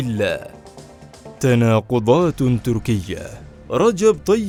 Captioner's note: Turkish